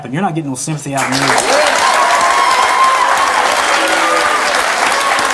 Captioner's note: audience clapping